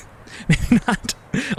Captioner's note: laughs